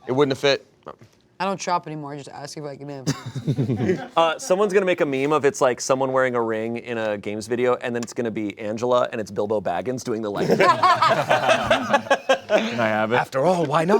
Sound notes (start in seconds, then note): 10.4 cast laughs